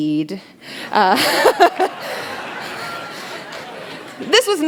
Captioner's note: laughter